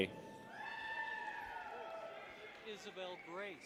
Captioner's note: people cheer